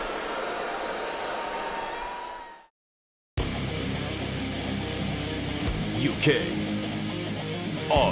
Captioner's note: crowd cheering